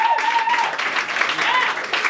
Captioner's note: applause